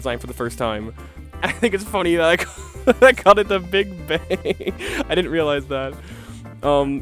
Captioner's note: laughing alot; wheezing